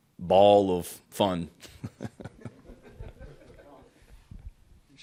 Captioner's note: laughing